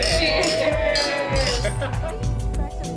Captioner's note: glasses clinking; crowd cheering; lively music